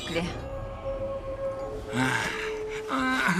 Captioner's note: groans